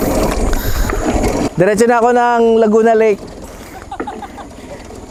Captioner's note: laughs